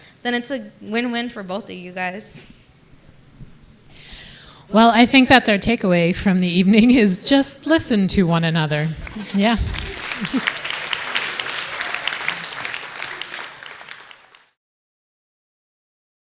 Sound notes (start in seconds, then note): 8.9 audience applauding